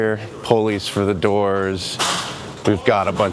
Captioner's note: object clattering